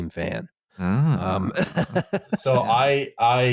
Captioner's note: laughs